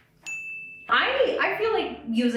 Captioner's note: ding